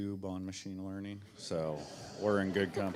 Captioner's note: audiences laughing